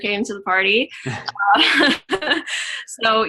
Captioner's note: laughing